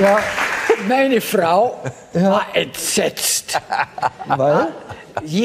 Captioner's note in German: lacht